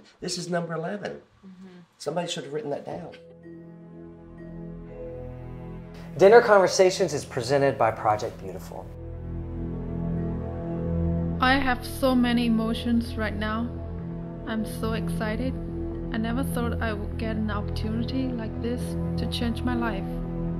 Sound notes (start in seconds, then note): 3.4 gentle music; 11.6 voiceover